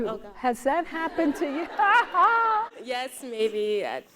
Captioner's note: laughs